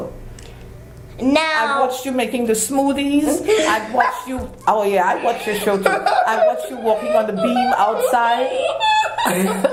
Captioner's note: laugh